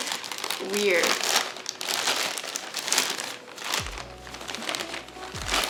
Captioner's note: paper crunching